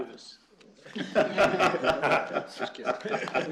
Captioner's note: laughter